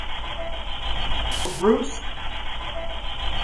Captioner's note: faint Voice